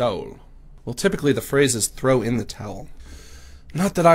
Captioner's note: normal voice